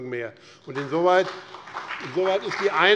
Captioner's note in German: Beifall BÜNDNIS 90/DIE GRÜNEN und CDU